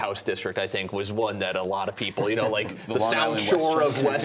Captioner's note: laughter